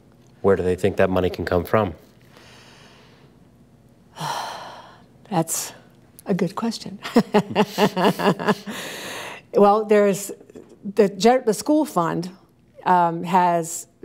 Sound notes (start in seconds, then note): 2.3 deep exhale; 7.1 laughs